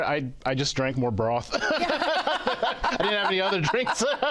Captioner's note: laughter